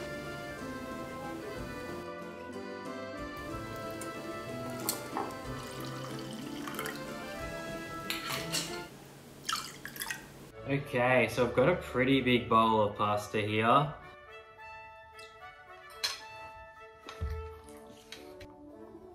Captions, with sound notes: (gentle instrumental music) (wine splashing in glass) Okay, so I've got a pretty big bowl of pasta here. (gentle instrumental music)